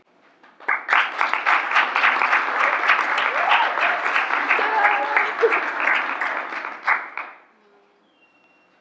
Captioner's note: applause